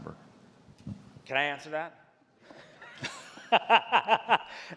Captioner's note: laughs